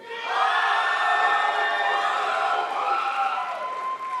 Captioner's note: crowd applauds